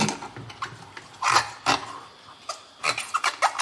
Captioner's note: squeaking sounds as I'm rubbing the rubber to clean the crocs